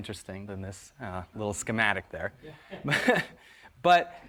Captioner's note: laughs